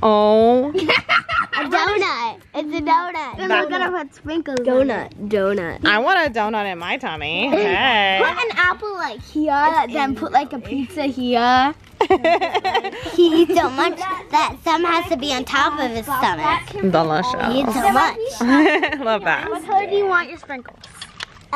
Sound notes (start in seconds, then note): 0.7 girls giggling; 12.0 laughing; 18.2 laughs